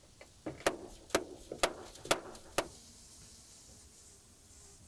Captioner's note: hammer banging